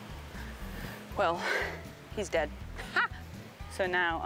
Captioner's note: upbeat country music; laughing